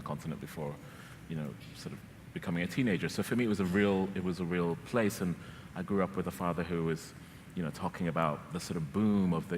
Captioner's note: none